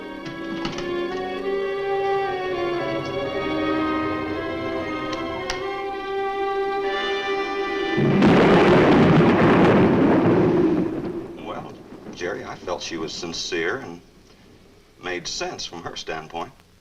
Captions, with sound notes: (dark orchestral music continues) (thunder claps) - Well, Jerry, I felt she was sincere and made sense, from her standpoint.